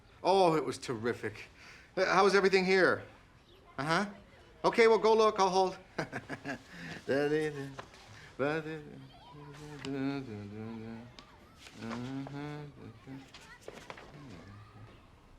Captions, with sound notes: Oh, it was terrific. How was everything here? Uh-huh. Okay, well, go look, I'll hold. [CONTINUES HUMMING]